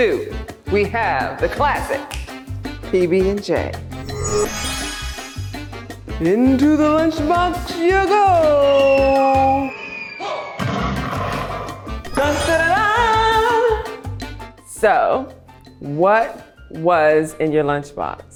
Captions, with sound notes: We have the classic (fingers snap) PB and J (magic wand swooshes) into the lunch box you go. (cartoon falling sound) Da-da-da-dahhhh. So what was in your lunch box?